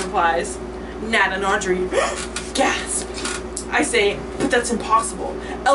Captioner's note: dramatic inhale